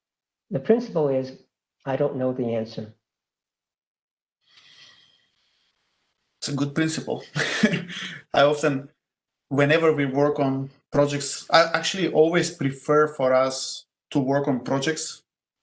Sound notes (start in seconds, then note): 6.7 laugh